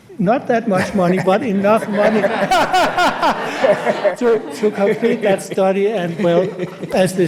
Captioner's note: laughs